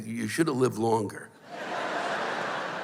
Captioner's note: laughter